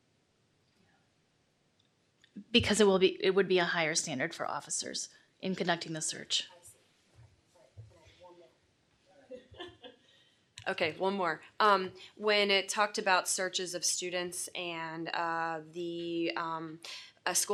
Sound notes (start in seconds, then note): 9.3 laughter